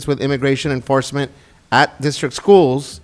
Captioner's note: none